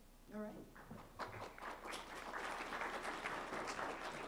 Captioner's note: applause